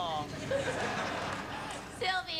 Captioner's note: laughter